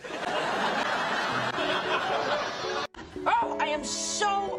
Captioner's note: audience laughing